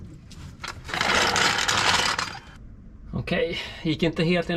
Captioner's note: snapping